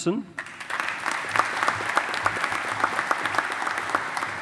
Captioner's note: audience applauding